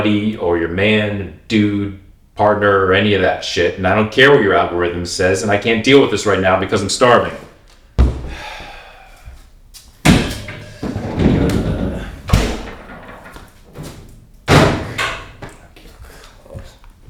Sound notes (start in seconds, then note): 8.2 Manny sighs; 15.6 mumbling to self